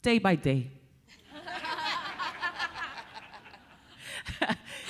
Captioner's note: everyone laughing